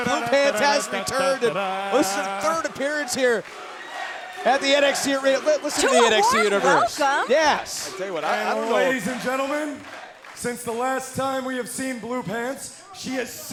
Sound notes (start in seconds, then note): 8.8 fans chanting